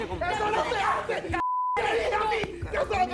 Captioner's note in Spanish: sigue gritando